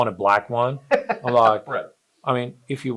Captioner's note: laughs